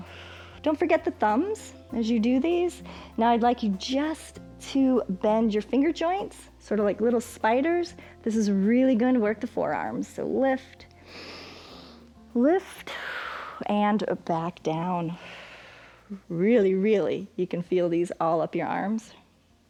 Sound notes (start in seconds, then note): 11.0 inhales; 15.1 exhales